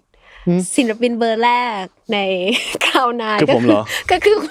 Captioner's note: laughs